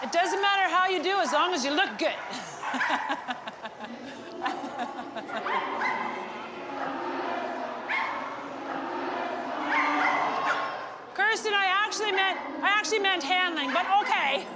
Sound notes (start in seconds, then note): 2.3 laughs; 5.2 dogs barking